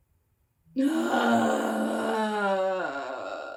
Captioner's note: groans